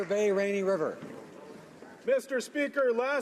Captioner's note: applause